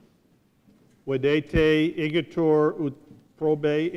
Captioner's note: speaking latin